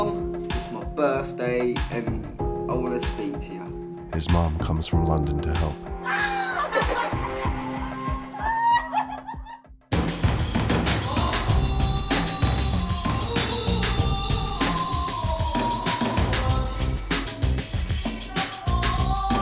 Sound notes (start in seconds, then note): 7.6 squeals of excitement